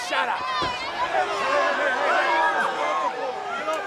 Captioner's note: crowd cheering